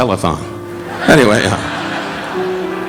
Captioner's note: audience laughing